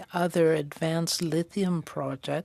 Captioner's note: speaking French